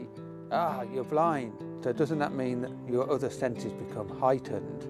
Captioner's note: none